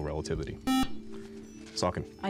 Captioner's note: buzzer